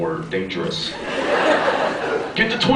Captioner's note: laughs